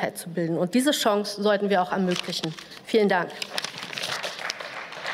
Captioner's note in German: Beifall